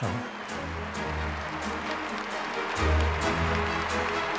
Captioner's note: crowd applauds